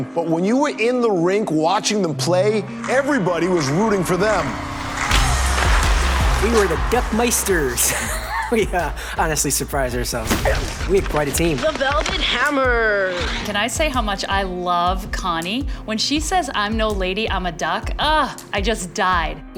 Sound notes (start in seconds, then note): 7.8 laughs; 10.2 crashing